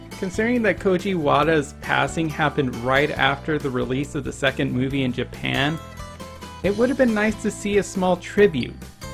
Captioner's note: none